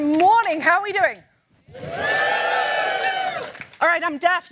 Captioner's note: applause